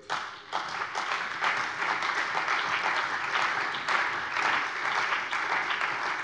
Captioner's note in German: Beifall bei der CDU und dem BÜNDNIS 90/DIE GRÜNEN